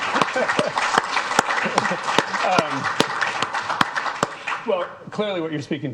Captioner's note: people applauding